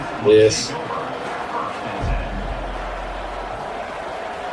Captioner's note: crowd Noises